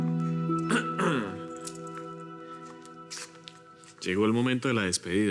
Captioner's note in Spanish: Él carraspea